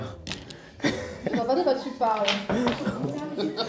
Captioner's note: laugh